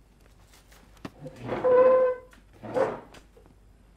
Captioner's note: chair scraping